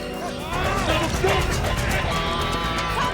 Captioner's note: Tommy grunting